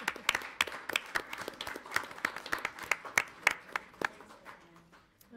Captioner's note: audience applauds